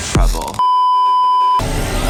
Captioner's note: beeeeeep